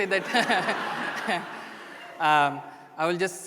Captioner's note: laughter